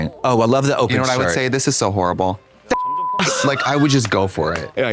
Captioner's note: beep